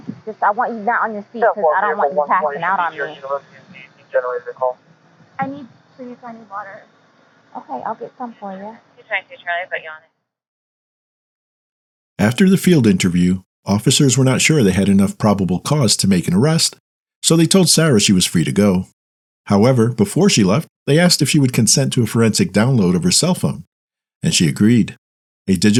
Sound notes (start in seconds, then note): 4.2 voices on police radio, indistinct; 9.1 voices on police radio, indistinct